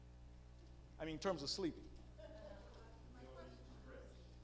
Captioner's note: audience laughing